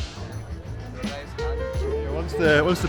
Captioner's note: crowd chattering